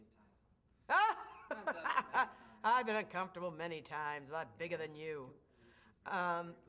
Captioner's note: laughs